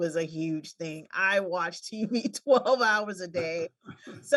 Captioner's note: laughing